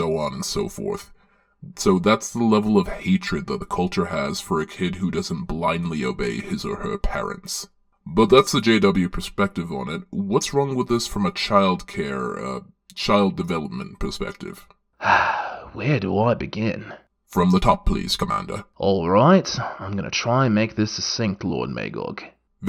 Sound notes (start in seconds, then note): 15.0 sigh